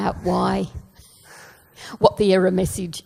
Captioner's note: laughs